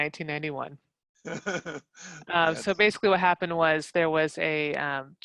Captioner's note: laugh